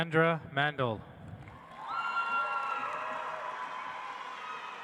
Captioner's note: audience applauds